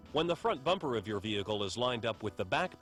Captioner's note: voiceover